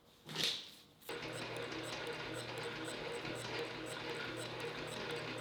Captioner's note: machine whirring